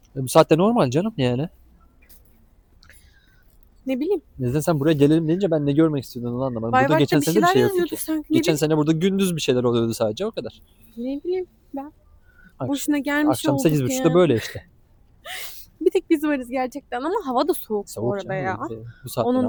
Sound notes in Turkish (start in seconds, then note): 15.3 kahkaha